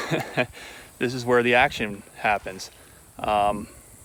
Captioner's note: laughing